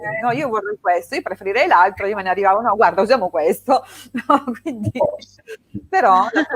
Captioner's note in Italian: risate